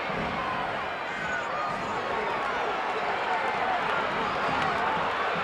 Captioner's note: audience chattering continues